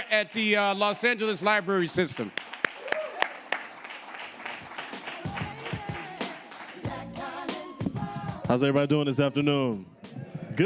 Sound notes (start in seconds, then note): 2.9 audience applauding; 4.4 upbeat music